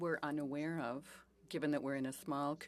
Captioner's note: speaking French